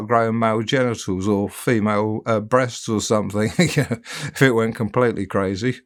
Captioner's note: chuckling